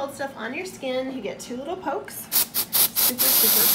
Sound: spraying

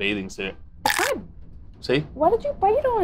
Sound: crunch sounds

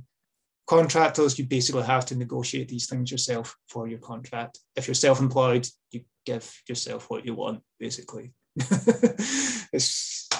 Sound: laughs

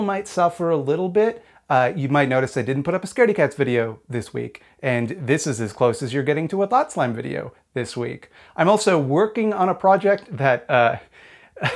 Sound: laughs

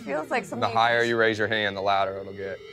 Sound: weird hummings

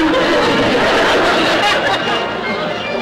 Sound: audience laughter

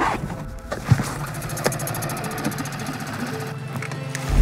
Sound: engine puttering

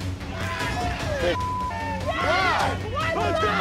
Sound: beep

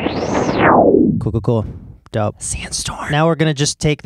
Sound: whispers

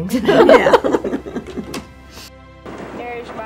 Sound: laughter

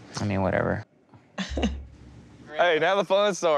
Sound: laughing

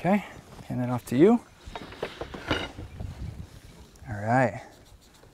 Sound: rattling of speed square on railing, no additional audio

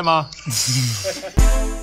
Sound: laughs; upbeat tempo music

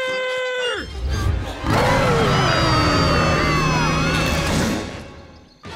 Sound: growling, screaming

